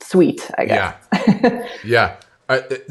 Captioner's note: laughs